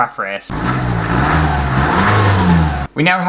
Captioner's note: engine Revs